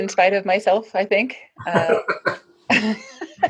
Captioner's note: laughing